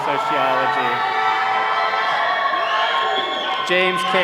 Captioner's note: all cheering